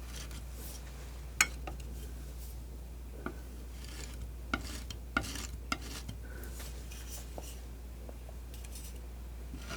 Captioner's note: metal scraping